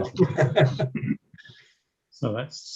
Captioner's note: attendees laughing